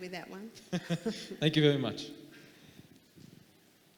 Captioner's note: laughing